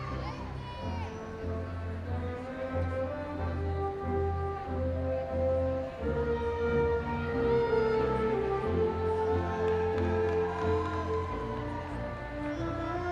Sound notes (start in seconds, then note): 9.2 audience cheering